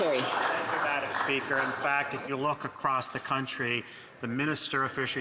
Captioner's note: some Applause